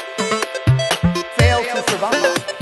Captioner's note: echo